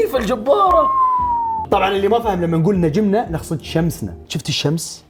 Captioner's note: whistles